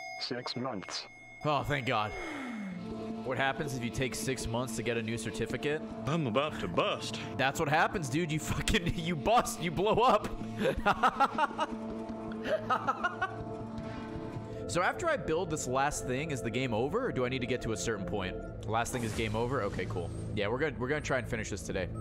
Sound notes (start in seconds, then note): 12.4 laughs